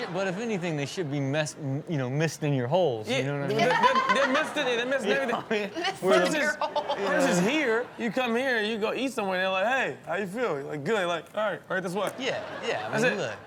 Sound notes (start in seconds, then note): 0.0 audience laughs; 3.5 laughs